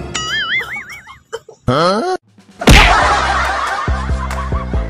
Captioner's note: choking